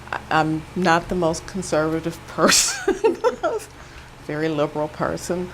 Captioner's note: chuckles